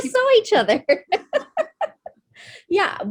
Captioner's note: laughs